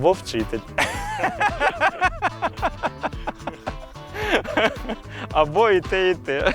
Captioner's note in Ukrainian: сміх